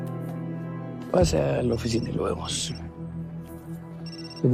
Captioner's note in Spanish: Suena el celular